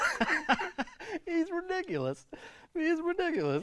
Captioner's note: laughing